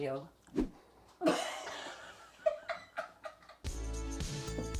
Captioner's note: both laughing; upbeat music